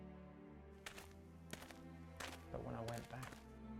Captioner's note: footsteps approaching